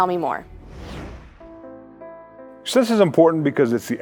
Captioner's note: dramatic swooshing